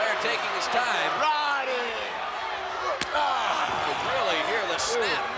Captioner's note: hands thudding